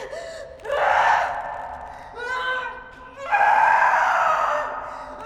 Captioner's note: screams, grunts